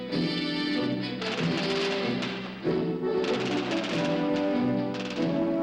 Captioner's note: machine guns firing